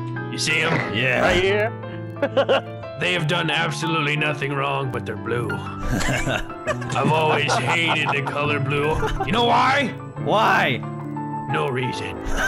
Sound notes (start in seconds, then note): 2.1 chuckling; 5.8 laughing